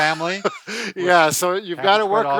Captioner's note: laughing